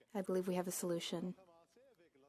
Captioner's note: speaking FRENCH